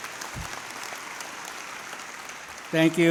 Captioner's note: applause